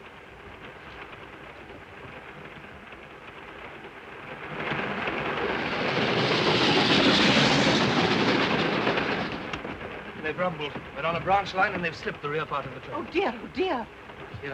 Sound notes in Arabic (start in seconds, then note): 0.1 صوت خشخشة القطار; 4.4 هدير القطار